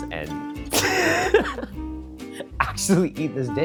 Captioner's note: laughing